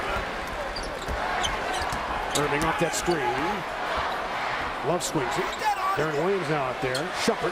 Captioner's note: loud crowd noise